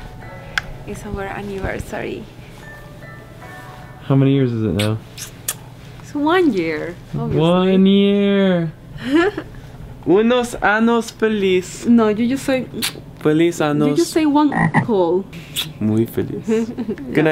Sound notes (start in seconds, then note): 4.7 making kissing noises with lips; 9.0 giggles; 10.1 speaks in foreign language; 12.9 speaks in foreign language; 14.4 mimics frog croaking; 15.4 lips smooching; 16.1 speaks in foreign language; 16.4 giggles